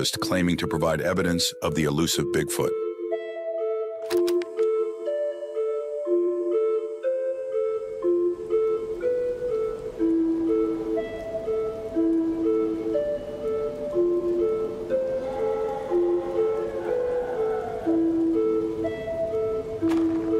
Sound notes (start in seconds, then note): 3.1 reel clicking; 3.1 suspenseful music; 15.1 creature howling; 15.1 suspenseful music continues